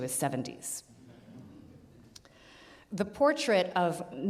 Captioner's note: audience laughs